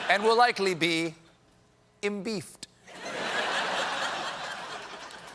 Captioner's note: laughter